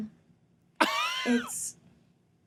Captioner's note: wheezing